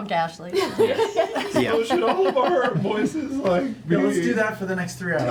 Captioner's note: voice breaking